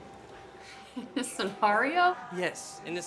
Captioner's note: laughs